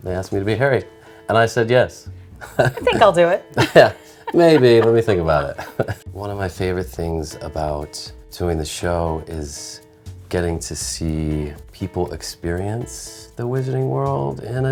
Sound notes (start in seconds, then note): 3.5 laughs; 6.2 chuckles